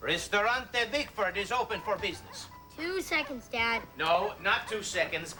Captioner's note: italian accent